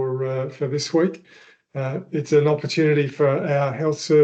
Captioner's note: speaking in Ngarrindjeri Language